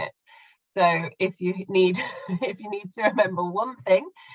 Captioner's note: laughing